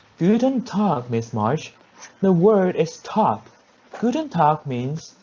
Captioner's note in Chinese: 德語